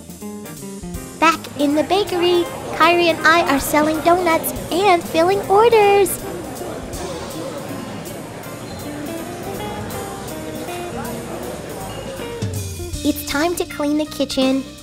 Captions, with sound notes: Back in the bakery, Kyrie and I are selling donuts and filling orders. (people talking in distance) It's time to clean the kitchen.